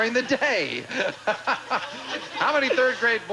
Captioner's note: audience laughing